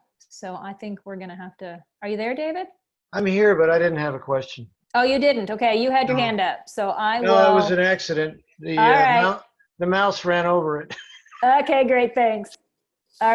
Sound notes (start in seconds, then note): 10.8 laughs